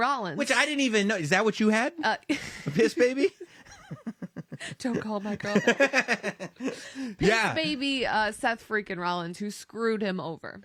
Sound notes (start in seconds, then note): 2.4 laugh